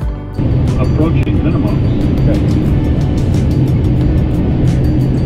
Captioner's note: computer Voice